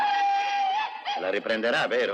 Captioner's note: whooping